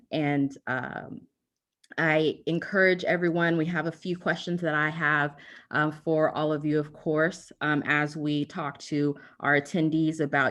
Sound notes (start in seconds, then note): none